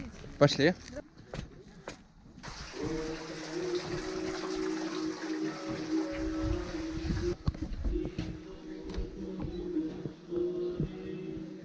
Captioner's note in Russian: шум льющейся воды, церковные песнопения